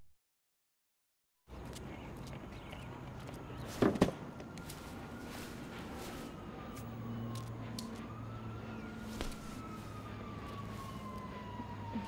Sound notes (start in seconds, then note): 4.0 siren wailing